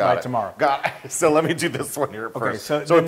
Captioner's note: laugh